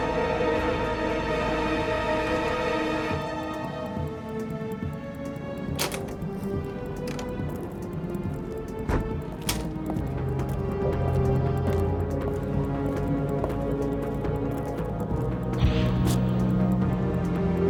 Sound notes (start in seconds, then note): 4.7 tense music; 8.8 door thuds; 10.8 tense music continues